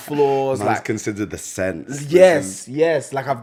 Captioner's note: laughs